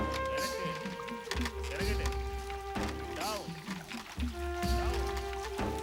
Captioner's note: speaking foreign language